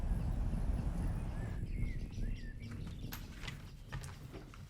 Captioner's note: birds singing